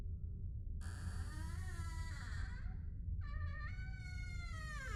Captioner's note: door creaking